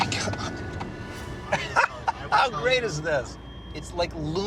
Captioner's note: laughs